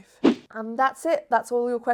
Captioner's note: fast whoosh